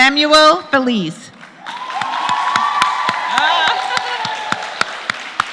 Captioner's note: applause; laugh; applause